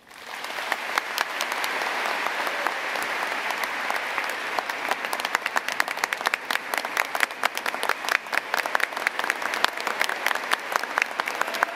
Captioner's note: applause